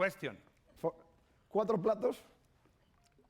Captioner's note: speaking spanish